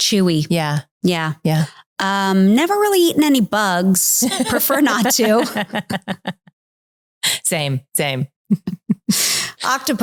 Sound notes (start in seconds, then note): 6.0 laughing